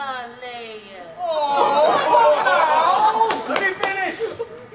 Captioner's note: laughing